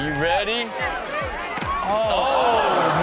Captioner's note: group cheering